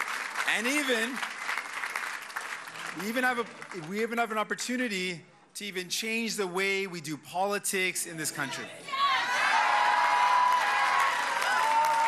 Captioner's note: cheers and applause